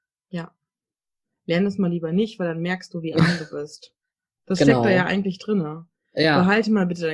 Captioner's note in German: ironie